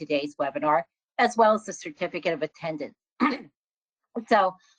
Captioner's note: clears throat